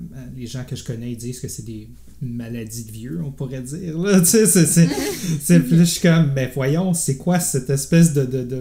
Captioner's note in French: rires